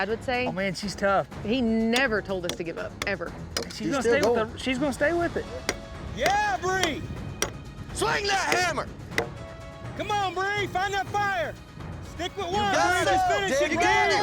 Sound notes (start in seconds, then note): 6.2 hammering; 6.2 cowboys shout encouragement; 12.2 cowboys shout encouragement